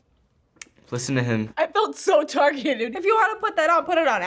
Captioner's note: snaps